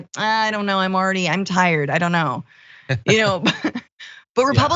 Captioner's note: laugh